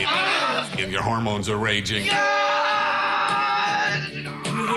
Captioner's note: screaming; screaming Continues